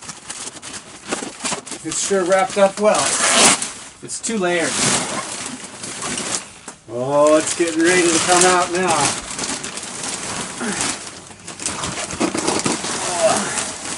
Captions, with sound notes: This sure wrapped up well. It's two layers. Oh, it's getting ready to come out now. (grunts)